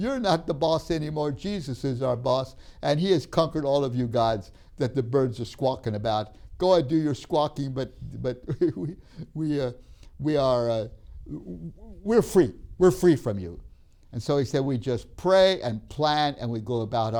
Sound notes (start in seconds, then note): 8.0 laughs